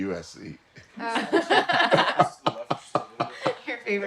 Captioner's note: group laughing